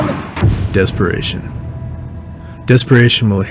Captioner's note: voiceover